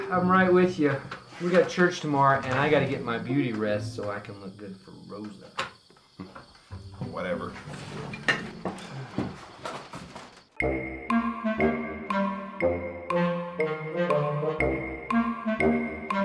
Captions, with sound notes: - I'm right with you. We got church tomorrow and I gotta get my beauty rest so I can look good for Rosa. - Whatever. (upbeat woodwind music) (clock ticking)